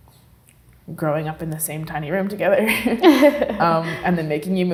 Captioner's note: both laugh